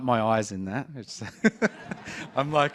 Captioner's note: laughter